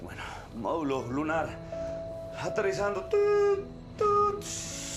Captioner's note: beep, beep